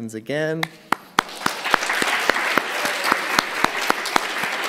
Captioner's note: applause